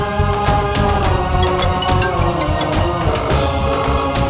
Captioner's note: Phone ringing